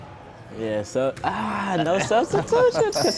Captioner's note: laughing